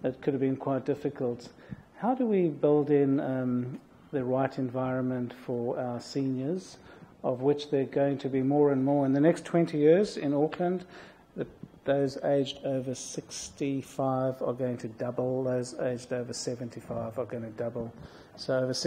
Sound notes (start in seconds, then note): none